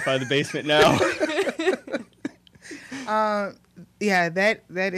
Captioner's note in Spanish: La risa